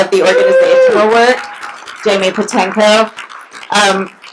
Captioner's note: applauding